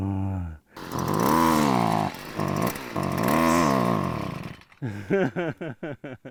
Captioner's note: laughs/groans; sounds of trying to start a gas weed eater; laughs/groans